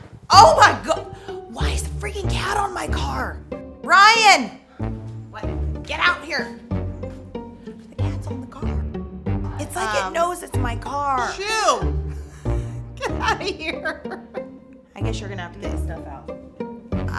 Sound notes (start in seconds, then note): 13.0 chuckling